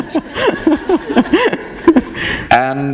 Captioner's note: laughter